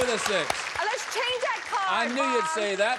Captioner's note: applause